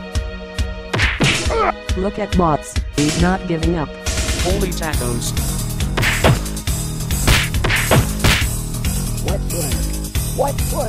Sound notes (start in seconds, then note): 2.3 punches continues